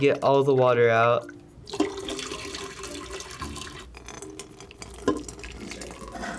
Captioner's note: water pouring